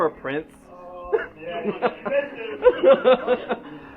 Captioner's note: laughter